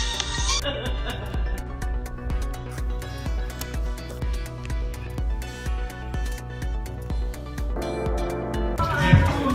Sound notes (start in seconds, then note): 0.2 laughing; 2.7 upbeat music